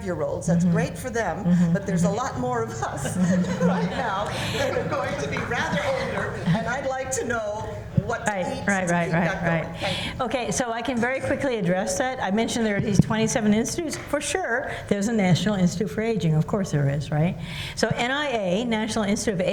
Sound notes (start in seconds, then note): 2.8 laughter